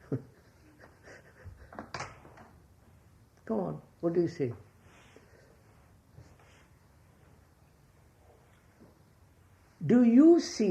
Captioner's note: laughs